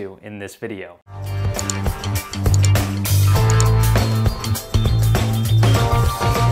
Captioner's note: upbeat music; mouse clicking